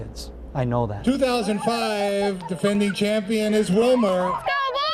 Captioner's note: laughter